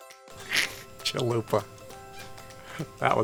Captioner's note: snickering